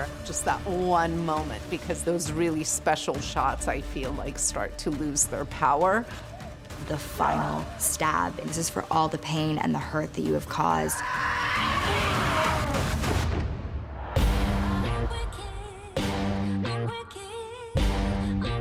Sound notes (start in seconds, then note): 10.7 imogen yells; 13.9 dramatic music plays